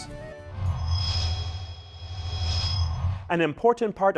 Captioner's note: sound Effects